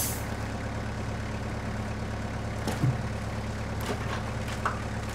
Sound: engine runs

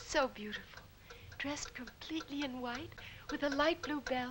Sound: clock ticking

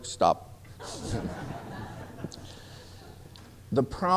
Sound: laughter

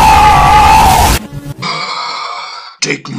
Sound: huhhhhhhhhhhhhhhhhhhh

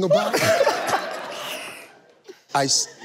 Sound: laughs

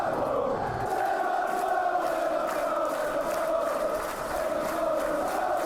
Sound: applause

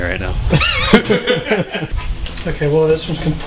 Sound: laughing

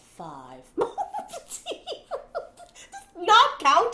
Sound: giggling

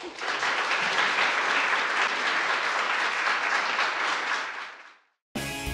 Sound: audience applauds

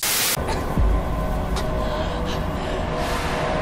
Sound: heavy breathing

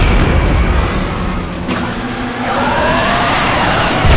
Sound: mechanical machine noises and plasma charge up sounds

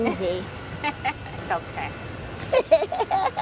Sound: laughs

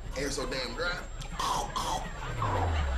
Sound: guttural throat clearing; audience laughter

